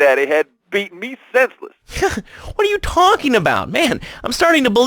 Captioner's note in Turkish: gülüyor